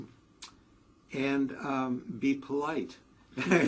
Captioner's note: laugh